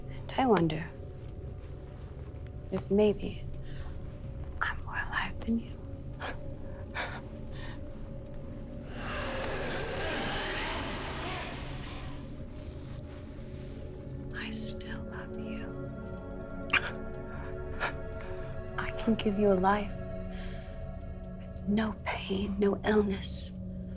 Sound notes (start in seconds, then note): 6.6 ominous music begins; 9.4 vampire roaring; 16.5 ominous music continues